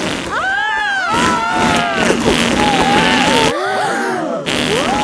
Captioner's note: both screaming; crowd gasps